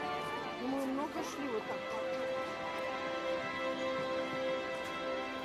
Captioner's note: speaks foreign language